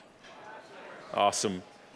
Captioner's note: crowd murmuring